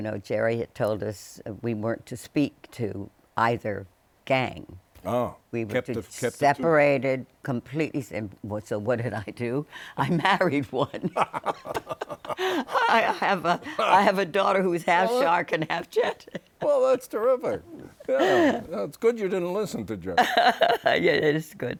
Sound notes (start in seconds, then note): 8.8 laughter